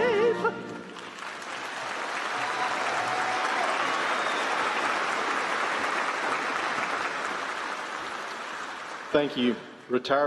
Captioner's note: applause